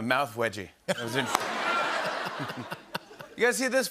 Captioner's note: laughter